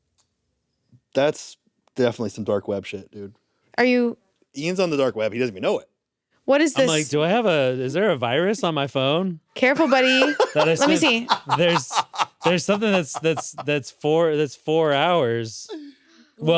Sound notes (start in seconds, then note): 9.8 laughs